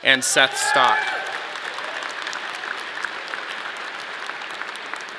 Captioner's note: audience clapping